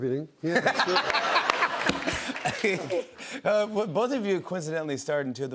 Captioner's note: laughs